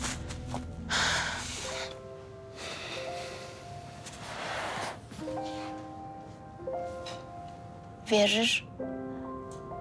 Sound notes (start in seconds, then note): 0.9 sighs